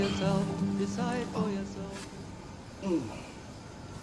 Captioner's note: strained groans